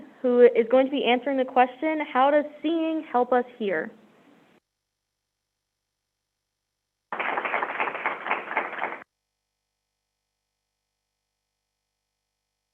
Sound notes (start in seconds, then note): 7.1 crowd applauding